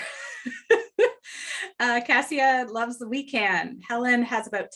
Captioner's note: laughs